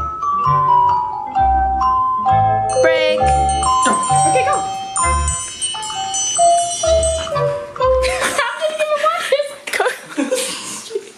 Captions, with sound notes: (bell ringing) - Break. - Okay ,go. (dogs eating) (laughing)